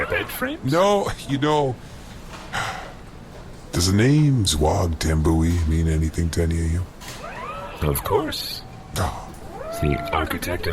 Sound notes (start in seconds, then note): 2.5 sighs